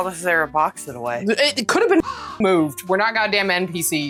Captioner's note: caw